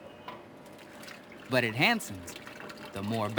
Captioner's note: batter shlops